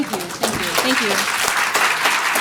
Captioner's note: applause